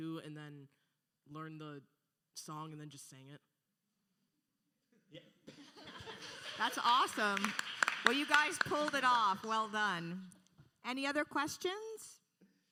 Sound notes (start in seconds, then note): 5.4 panelists laughing